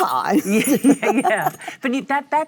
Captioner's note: Cate and Michelle laugh